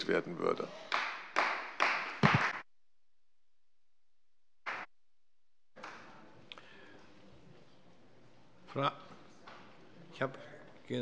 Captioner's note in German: Beifall bei der CDU